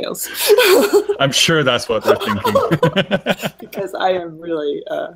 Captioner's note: laughing